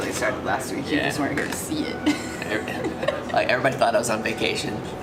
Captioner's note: laughs